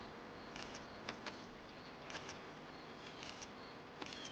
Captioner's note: camera shutter snaps